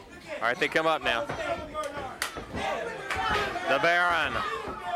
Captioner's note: hands clapping